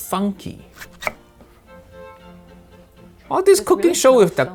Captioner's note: lively music; knife thuds